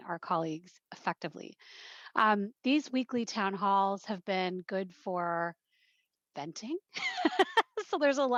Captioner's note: laugh